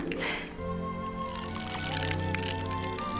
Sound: gum squeaks

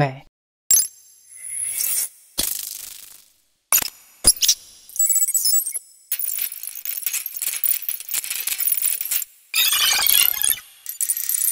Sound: various processed sounds playing

